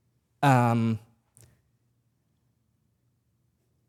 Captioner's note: none